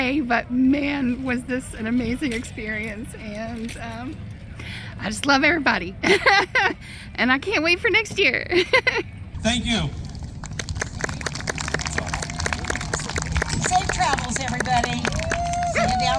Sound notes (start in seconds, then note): 11.9 audience clapping